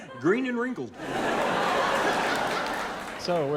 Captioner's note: audience laughing and applauding